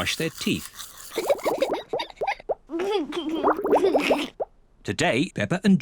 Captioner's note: giggles